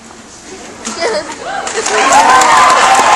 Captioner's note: audience cheering